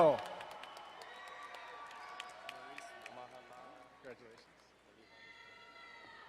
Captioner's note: crowd cheering and applauding